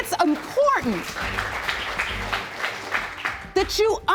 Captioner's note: audience applauding